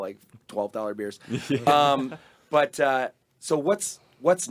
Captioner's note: group laughing